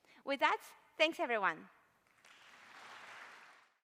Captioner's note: applause